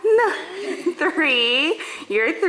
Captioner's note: family laughs